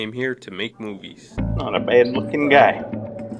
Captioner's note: affects Western accent